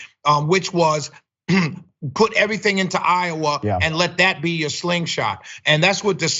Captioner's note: cough